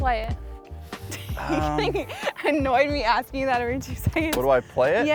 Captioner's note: laughs